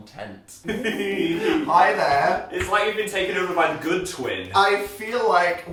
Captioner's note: laughing